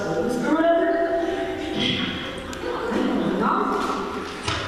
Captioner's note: page flip